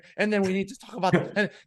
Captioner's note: laughing